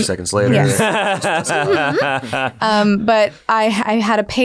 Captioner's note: laughing